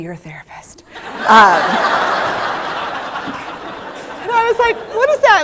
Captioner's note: laughter